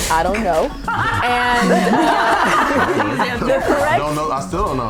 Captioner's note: chuckles